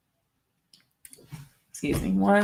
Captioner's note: mouse clicking